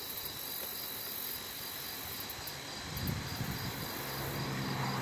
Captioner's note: wind blowing; traffic humming